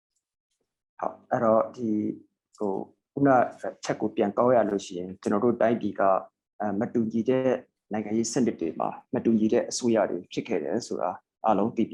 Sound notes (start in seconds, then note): 2.9 speaking burmese